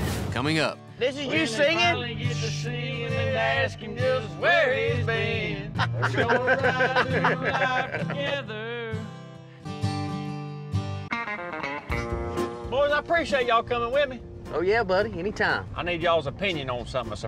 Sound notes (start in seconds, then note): 5.7 laughing